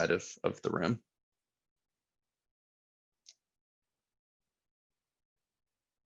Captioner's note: silence